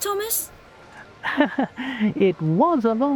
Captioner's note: small laugh